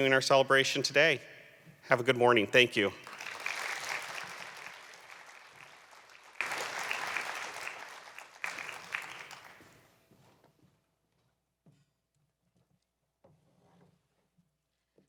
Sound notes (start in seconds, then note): 2.5 applause